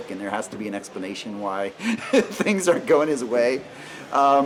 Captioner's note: laughing